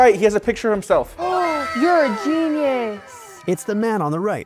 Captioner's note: gasping